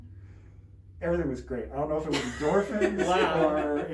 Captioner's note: laughs